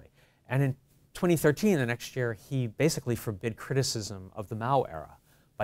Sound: none

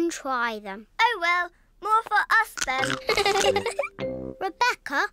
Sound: giggles

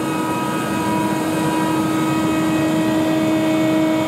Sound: machine noise

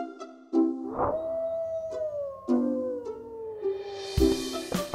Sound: werewolf howls

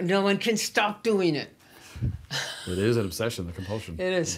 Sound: laughs

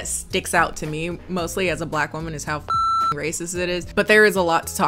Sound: beep

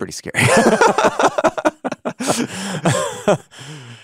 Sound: both laughing

